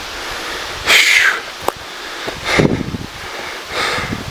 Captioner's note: whew